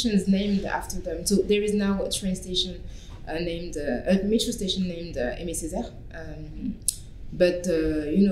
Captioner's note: french